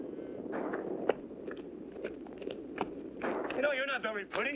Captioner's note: distant gunshots & hooves pounding